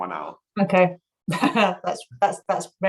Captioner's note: laughs